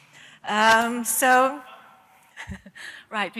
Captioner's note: laughter